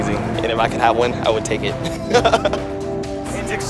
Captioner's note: laughs